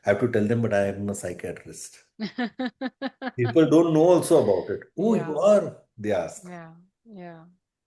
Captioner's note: laughter